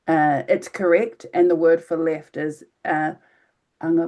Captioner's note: speaking in foreign language